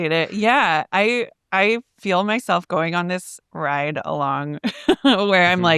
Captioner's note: chuckles